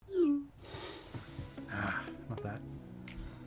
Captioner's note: blooping; air whooshing